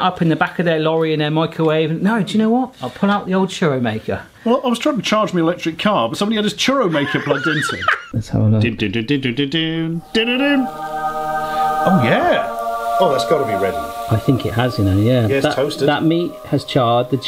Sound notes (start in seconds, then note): 9.0 vocalises dramatically; 9.8 heavenly choral music